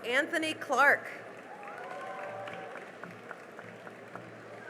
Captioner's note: cheering and applause